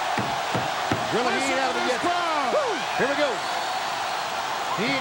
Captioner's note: audience cheering